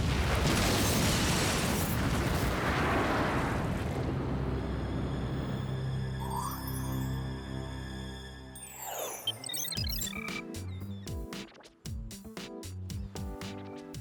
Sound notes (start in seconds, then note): 0.0 explosion; 8.5 beeping